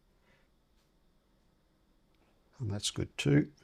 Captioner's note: silence